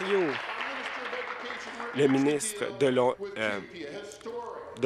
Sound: applause

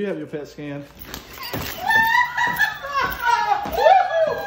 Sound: all cheering

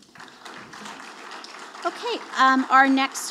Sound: audience applauding

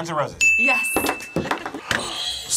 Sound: bell rings; buzzer rings; gasps

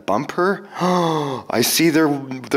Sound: gasps

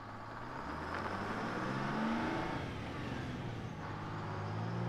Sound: vehicle approaching

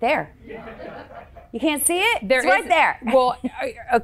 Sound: crowd laughing

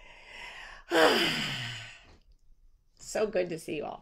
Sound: sighs

